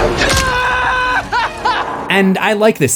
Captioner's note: screams